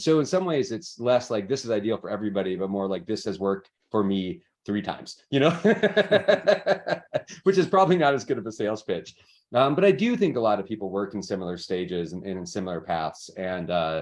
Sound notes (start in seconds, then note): 5.5 laughs